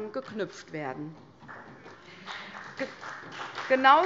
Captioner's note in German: Beifall CDU